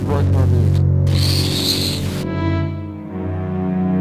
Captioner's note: Static